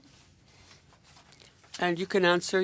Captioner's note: speaking in French